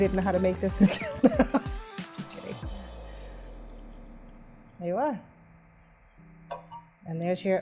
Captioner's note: laughs